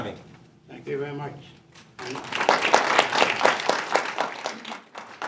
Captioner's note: audience appluses